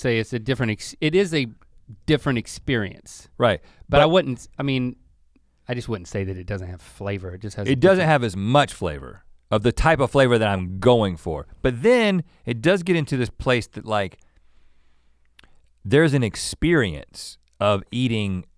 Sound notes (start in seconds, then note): none